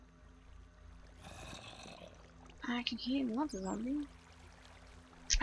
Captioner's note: zombie moans